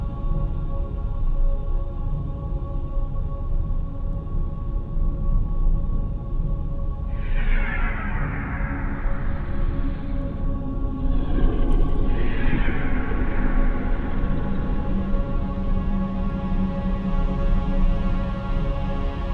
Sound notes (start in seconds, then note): 8.0 eerie distant howl; 11.2 Bigfoot growling